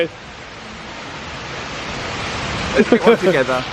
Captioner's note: water gushing